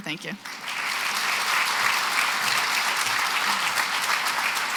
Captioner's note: applause